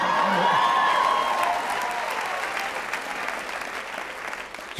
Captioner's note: cheers